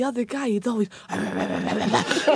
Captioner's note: grunts